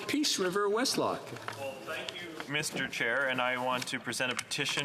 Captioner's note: speaking French